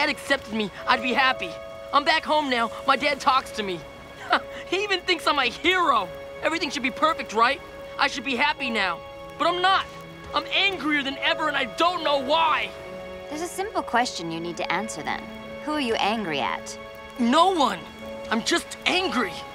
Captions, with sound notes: I'd be happy. I'm back home now. My dad talks to me. [scoffs] He even thinks I'm a hero. Everything should be perfect, right? I should be happy now, but I'm not. I'm angrier than ever, and I don't know why! There's a simple question you need to answer then. Who are you angry at? No one. I'm just angry.